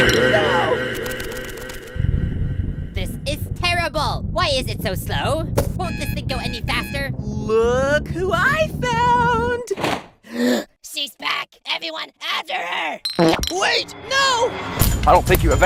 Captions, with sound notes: No! This is terrible! Why is it so slow?! Won’t this thing go any faster?! LOOOOOK who *I* found! [GASP] She’s back! EVERYONE, AFTER HER! WAIT! No!